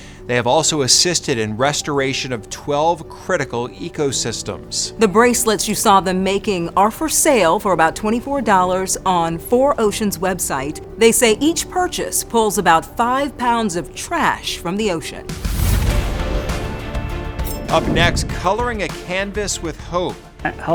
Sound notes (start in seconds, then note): 15.3 air whooshing; 15.5 triumphant music